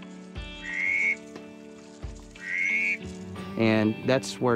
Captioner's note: duck call